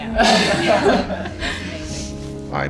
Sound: everyone laughing

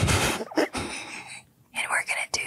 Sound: Alex and Jess laughing

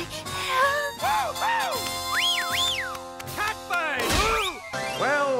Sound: whistling

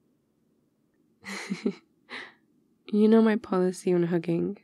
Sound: laughs

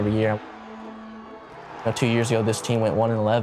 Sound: cheering, shouting

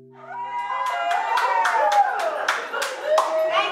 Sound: applause

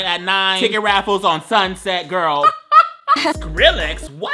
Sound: laughing

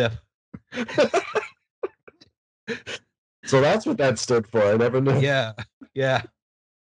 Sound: laughter

